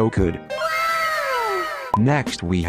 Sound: かわいい wow sfx

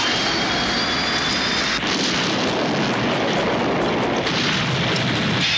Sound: loud explosion

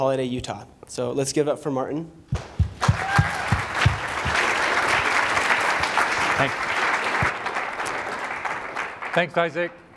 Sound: applause

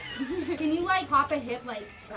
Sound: laughing

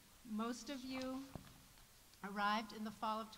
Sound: none

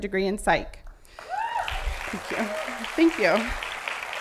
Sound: applause

